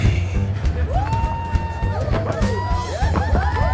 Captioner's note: audience whooping